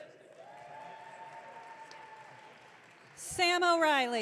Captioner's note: audience cheering